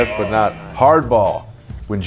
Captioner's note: buzzer buzzing